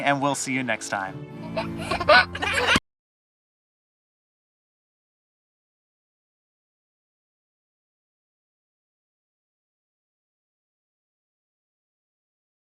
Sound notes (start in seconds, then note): 1.4 giggling